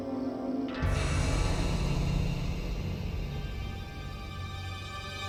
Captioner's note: startling tone